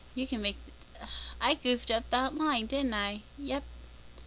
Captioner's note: sigh